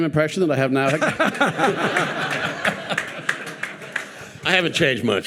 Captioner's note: participants and audience laughing and applauding